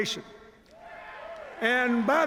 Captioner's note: cheers